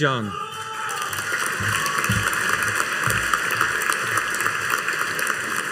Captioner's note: audience cheering and applauding